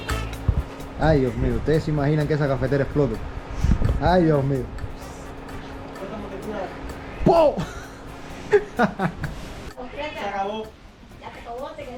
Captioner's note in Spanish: risas